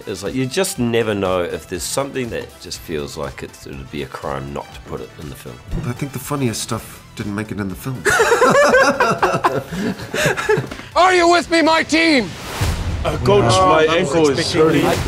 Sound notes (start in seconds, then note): 8.0 laughter